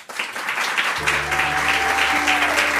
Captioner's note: applause